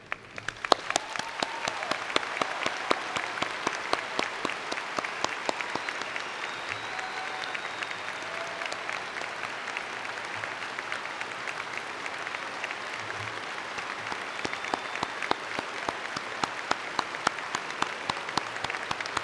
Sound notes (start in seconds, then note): 0.6 cheering and Applause